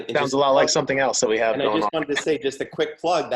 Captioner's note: chuckles